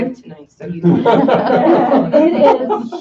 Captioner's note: laughter